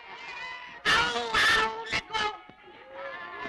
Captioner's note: screaming